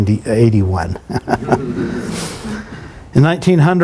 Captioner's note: chuckles